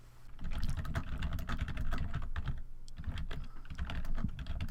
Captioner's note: keyboard clicking